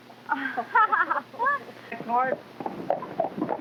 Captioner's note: all laughing; hooves clopping